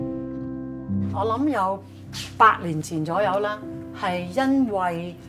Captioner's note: soft piano music begins; Cantonese